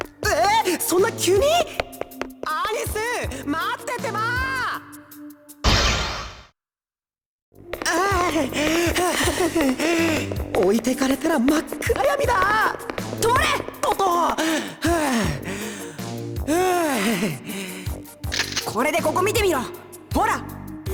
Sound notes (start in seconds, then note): 8.1 pant; 8.9 huff; 13.5 very exhausted panting